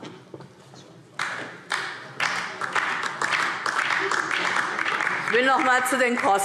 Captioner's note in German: Beifall DIE LINKE